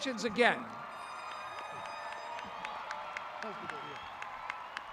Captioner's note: applauding